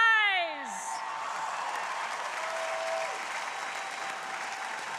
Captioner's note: crowd applauding